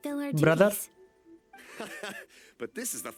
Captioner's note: laughs